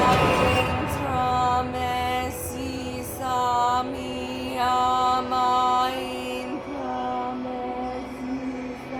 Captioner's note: chanting in Latin